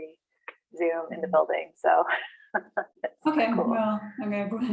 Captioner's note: laughs